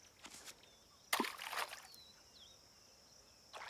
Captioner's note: splash